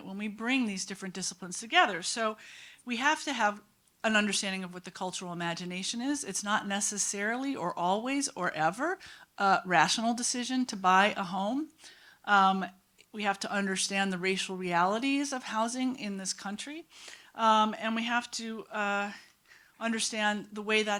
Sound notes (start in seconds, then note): none